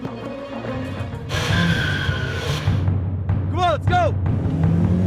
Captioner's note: tires screeching